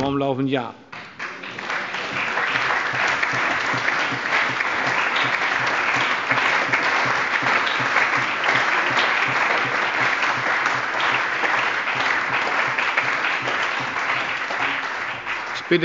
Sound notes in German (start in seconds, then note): 0.9 Allgemeiner Beifall